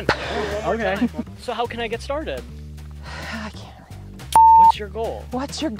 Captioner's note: exhale; laughing